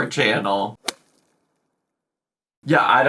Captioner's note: golf swing thumps